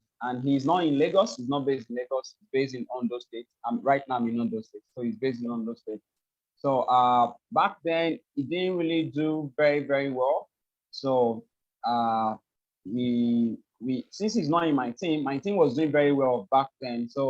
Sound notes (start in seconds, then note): none